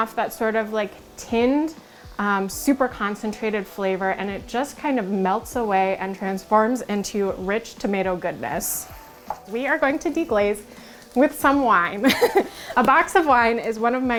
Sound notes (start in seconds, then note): 12.0 laugh